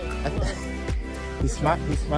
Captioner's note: laughs